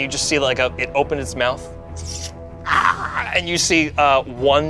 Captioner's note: yells